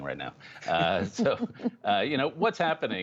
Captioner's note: laughter